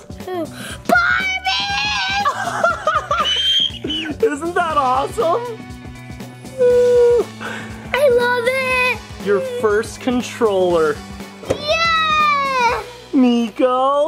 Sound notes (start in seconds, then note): 2.3 laughing